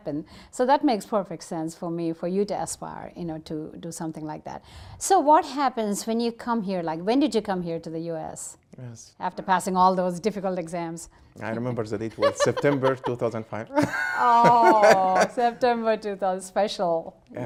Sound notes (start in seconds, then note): 11.5 Dr. Gingrich laughs; 13.6 laughs